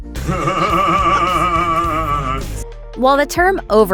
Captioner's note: laugh